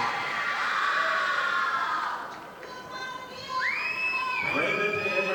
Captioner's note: audience applauding